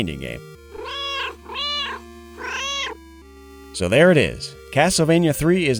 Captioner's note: meow, meow, meow